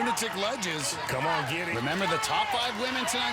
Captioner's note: cheering